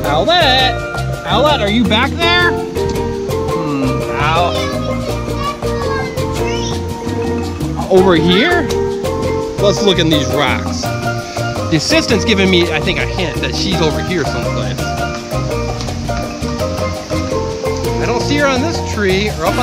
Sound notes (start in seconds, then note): 4.6 assistant calls from the distance; 16.6 island music